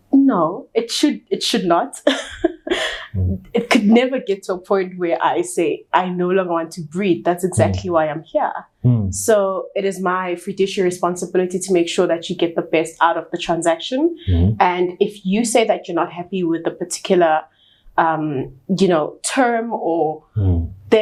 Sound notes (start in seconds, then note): 2.1 chuckles